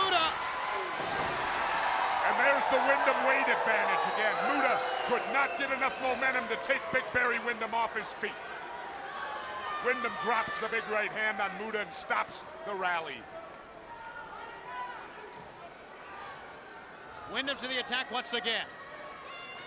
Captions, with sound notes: Muta! And there's the Windham weight advantage again. Muta could not get enough momentum to take big Barry Windham off his feet. Windham drops the big right hand on Muta and stops the rally. (crowd chattering) Windham to the attack once again.